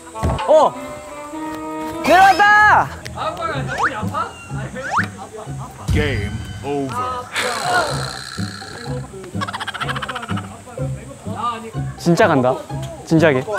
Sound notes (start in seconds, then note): 7.3 sigh